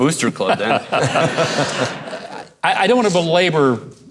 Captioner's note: men chuckle